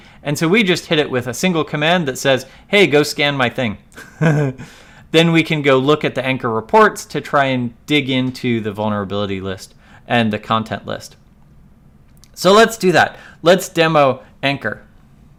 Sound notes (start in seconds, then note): 4.0 laughs